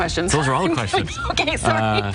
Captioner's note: laughs loudly